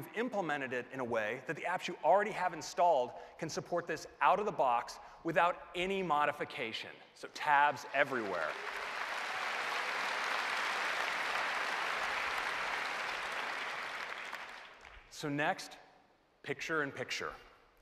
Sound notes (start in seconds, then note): 7.6 applause